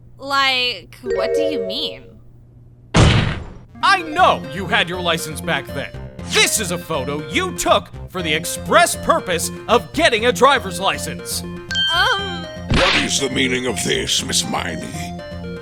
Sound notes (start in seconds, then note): none